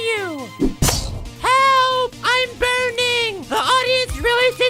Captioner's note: burning noise